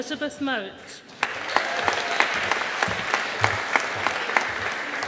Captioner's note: audience applauding